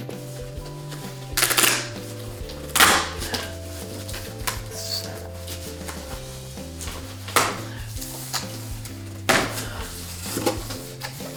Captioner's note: tape ripping and labored grunts